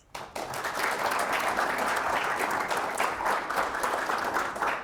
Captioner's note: audience applauding